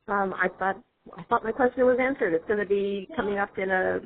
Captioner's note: voiceover